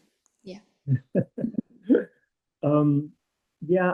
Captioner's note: chuckles